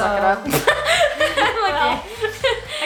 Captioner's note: laughs